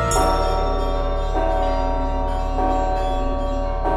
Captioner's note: loud bells ringing